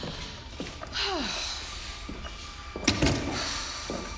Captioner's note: sighs